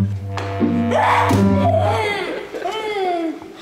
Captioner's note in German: Brüllen, Lachen